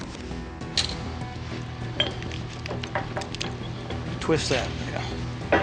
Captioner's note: clanging